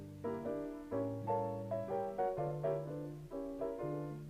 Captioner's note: none